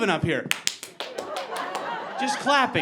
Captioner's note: clapping